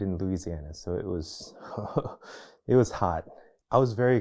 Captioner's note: chuckles